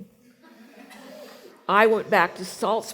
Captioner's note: laughing